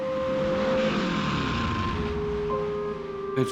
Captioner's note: engine revving